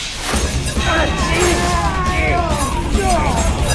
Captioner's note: all groaning